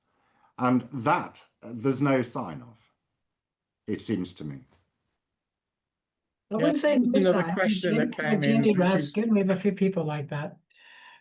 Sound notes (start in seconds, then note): 6.7 indistinct, overlapping chatter